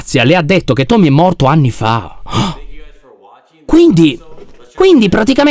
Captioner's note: gasps